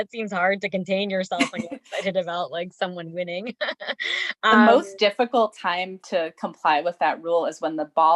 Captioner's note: laughs